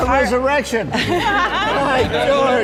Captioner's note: chuckles